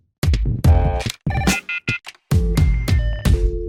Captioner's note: phone ringing